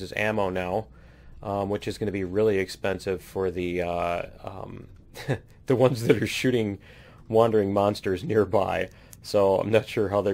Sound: laughs

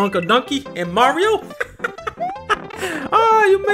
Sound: laughs

